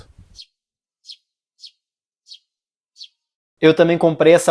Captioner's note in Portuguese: Som de pássaros